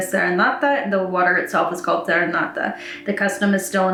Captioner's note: speaks Italian; speaks Italian